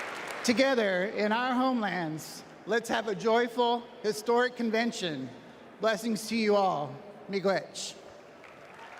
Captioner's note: applause